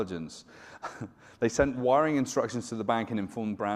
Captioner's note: chuckles